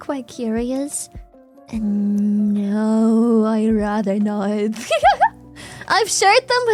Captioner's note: laughs